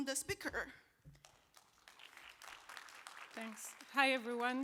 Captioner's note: applause